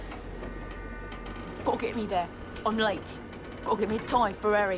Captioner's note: imitating %*#